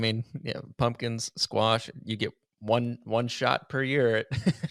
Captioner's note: laughs